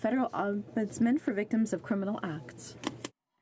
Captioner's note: speaking French